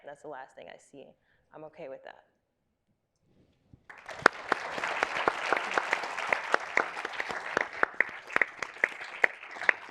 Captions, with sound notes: and that's the last thing I see, I'm okay with that. (audience applauding)